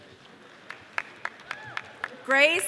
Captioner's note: audience applause